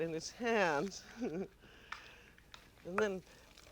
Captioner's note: chuckles warmly